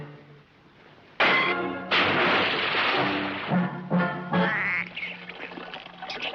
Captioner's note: fist pounds; water splashes; water squeaking; water splashing